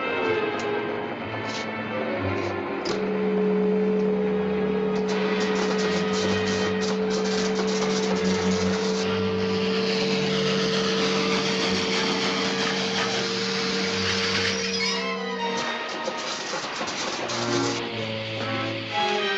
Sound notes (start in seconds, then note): 3.2 machine buzzing; 5.0 crackling; 12.2 wheels screeching